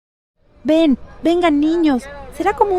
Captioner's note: Spanish